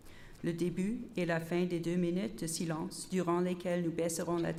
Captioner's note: repeated in French